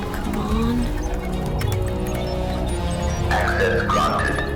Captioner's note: keypad buttons clicking